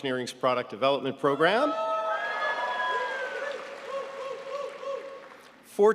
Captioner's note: audience cheering